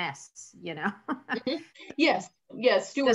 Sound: laughs

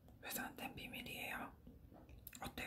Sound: whispers

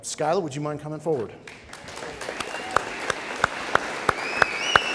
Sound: audience cheering

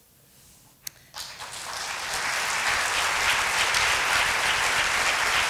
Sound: applause

